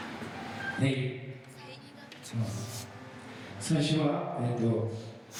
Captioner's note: speaking in foreign language